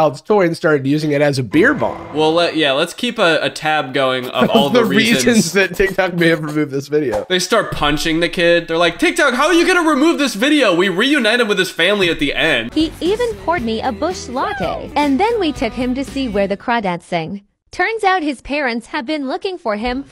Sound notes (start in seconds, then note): 12.8 AI voice